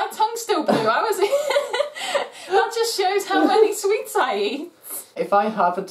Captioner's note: laughter